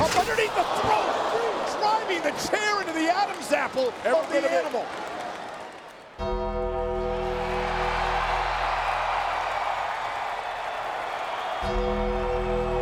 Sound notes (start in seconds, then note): 6.2 ominous music; 6.9 audience cheering